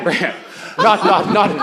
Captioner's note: laughter